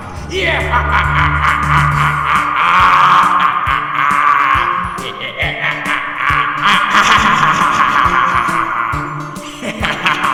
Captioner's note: Dr Doomer's maniacal laugh